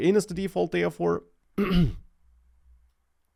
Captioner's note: clears throat